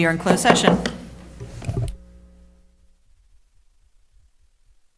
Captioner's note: gavel banging